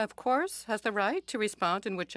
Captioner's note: speaking French